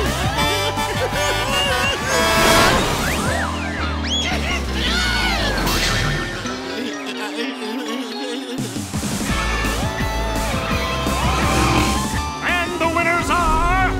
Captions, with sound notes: [honking] [screaming] And the winners are...